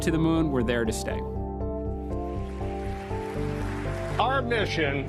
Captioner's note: applause